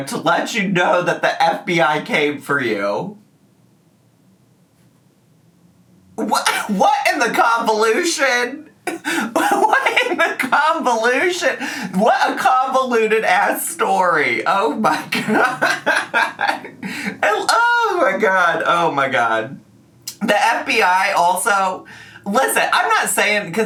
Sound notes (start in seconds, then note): 11.4 laughing